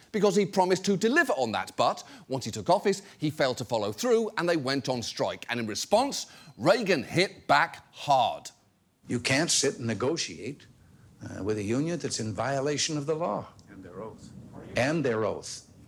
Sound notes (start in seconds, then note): none